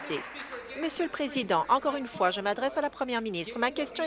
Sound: applause

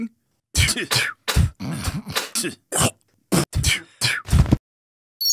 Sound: spitting

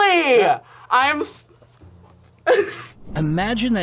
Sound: laughs

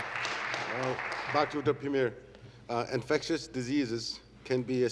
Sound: applause

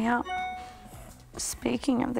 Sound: phone chimes

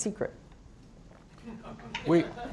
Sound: laughter

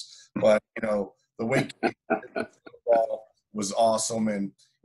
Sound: coach laughing

